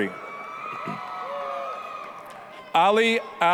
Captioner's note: applause, cheering